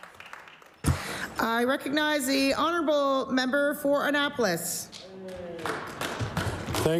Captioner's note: applause